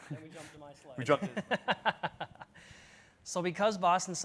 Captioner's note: laughs